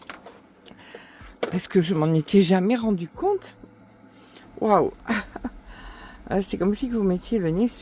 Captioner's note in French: rires